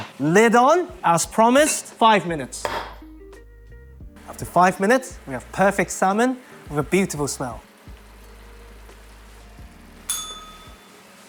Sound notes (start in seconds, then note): 10.1 bell rings